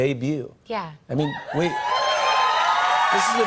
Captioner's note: cheers and applause